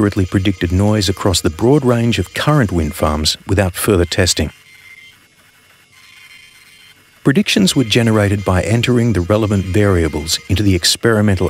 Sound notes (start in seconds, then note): 4.3 printing sounds